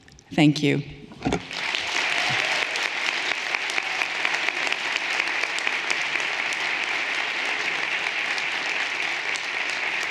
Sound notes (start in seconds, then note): 1.4 everyone applauding